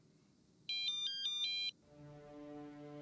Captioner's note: dan's cell phone rings